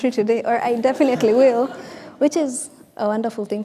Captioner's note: audience laughing